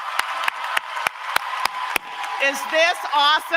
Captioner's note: applause